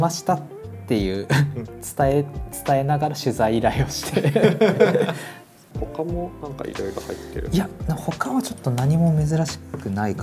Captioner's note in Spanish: risas